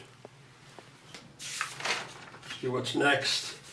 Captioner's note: turning pages